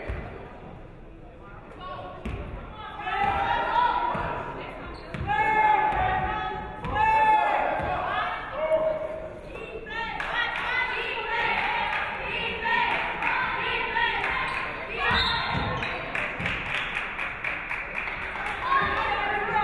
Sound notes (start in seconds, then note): 10.1 audience cheering; 15.0 referee whistles; 15.8 audience clapping